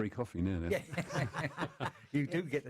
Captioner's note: laughter